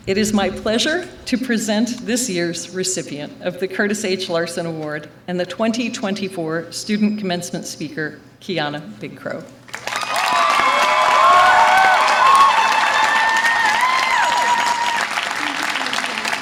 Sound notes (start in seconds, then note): 9.7 audience applause and cheer